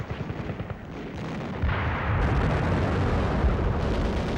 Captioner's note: guns firing